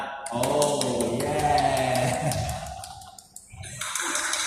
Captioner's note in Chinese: 拍手